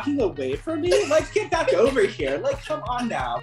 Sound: chuckling

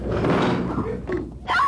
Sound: table breaks

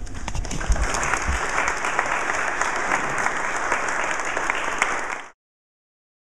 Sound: applause

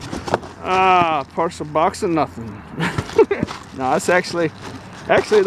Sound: laughing

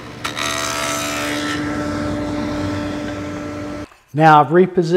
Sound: machine humming

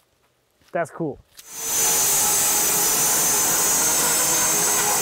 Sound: bandsaw mill whirring

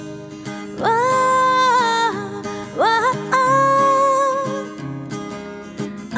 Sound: humming

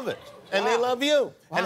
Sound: cheers and applause

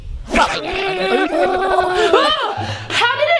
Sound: growls

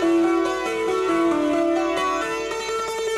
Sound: none

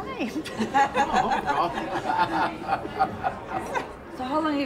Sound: laughing

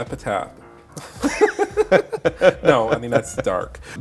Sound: laughs

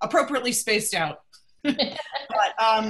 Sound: laughter

